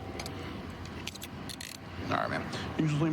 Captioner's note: handcuff closing